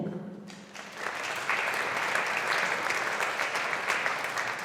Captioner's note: audience applauding